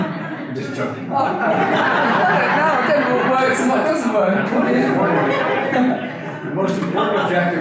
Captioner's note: audience laughter